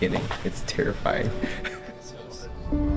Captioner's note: laughs